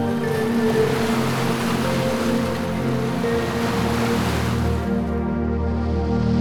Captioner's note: mellow techno music; waves crashing; mellow music